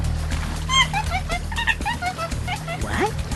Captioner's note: monkey noises